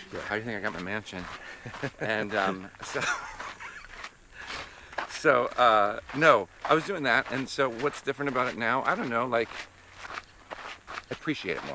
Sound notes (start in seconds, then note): 1.3 laughs